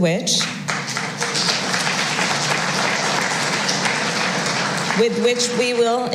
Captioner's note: applause